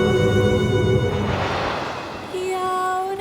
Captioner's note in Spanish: chirrido de trueno; solo femenino cantando